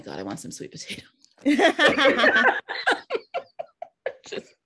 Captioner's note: all laughing